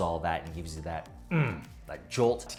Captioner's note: grunts